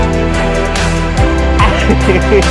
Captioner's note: laughing